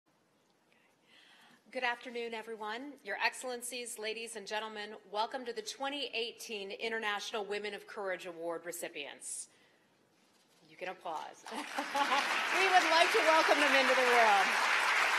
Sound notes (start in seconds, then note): 11.4 applause; 11.5 laughter; 14.5 applause